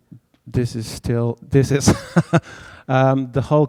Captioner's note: laughs